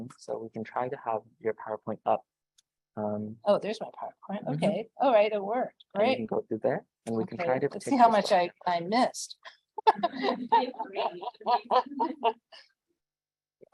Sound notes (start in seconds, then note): 9.8 laughs